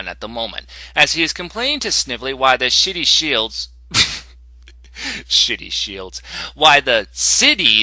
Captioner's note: chuckle